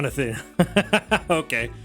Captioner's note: laughs